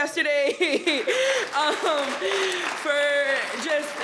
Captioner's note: attendees applauding